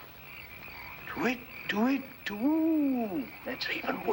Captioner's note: mimicking birds